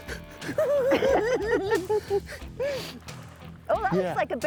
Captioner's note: cackling